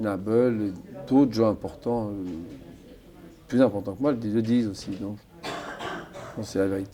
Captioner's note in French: raclement de gorge